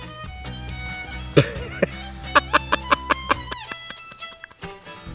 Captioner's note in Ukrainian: сміється